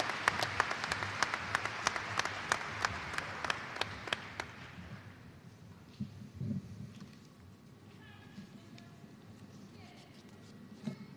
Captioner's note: applause